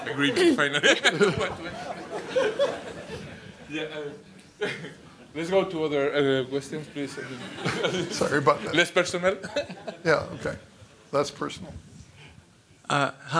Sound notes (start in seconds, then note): 0.4 laughter; 7.1 laughter